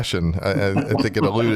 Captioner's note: laughter